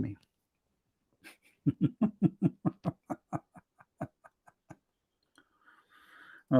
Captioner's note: Ketawa